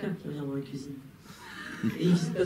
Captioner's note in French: rires